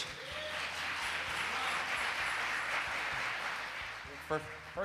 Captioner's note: audience claps and cheers